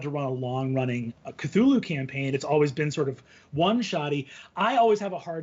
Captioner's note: none